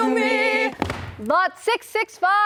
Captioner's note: platform thuds; shoes clack